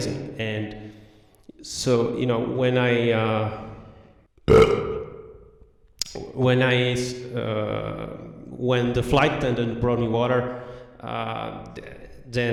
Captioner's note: burp